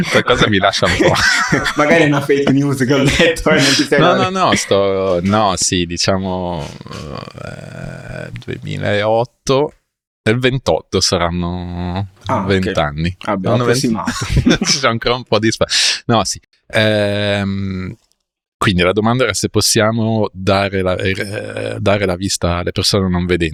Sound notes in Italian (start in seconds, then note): 0.0 risate; 13.9 risate